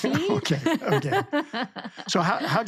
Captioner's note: laughing; laughs